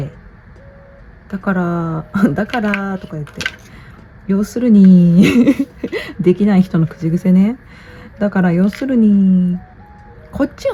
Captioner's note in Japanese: 笑い